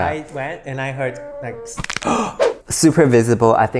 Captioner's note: crack